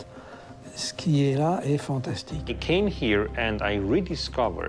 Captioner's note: in English